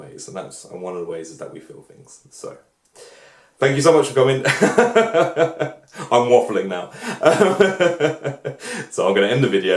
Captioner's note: laughs